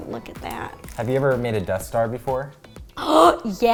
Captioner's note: gasp